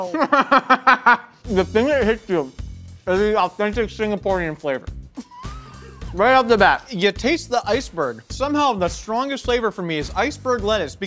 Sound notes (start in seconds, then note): 0.0 laughs; 5.1 laughing